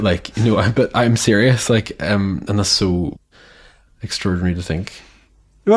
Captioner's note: they laugh